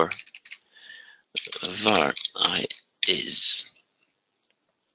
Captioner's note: typing